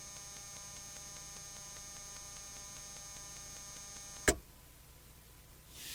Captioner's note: static